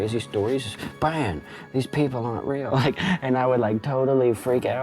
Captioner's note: laughs